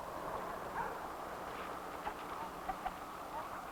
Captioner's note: dog barking